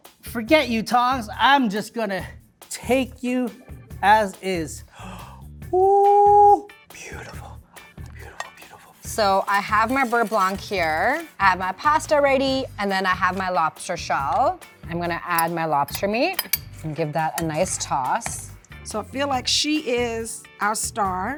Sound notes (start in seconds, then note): 4.9 gasps